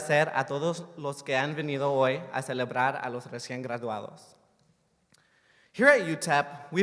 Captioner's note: speaking spanish